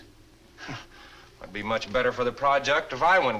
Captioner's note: scoffs